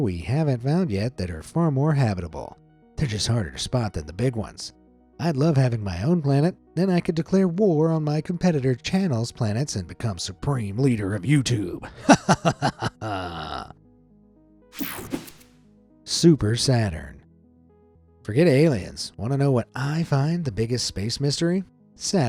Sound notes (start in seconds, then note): 11.8 laughing maniacally